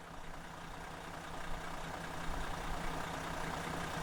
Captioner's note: idling bus